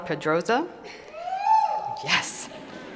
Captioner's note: cheer